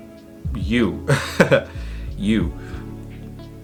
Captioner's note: laughs softly